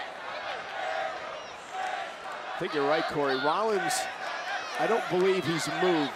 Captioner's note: applause